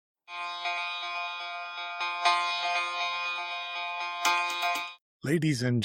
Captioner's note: bell ringing